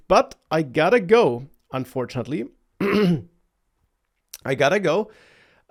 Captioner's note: clears throat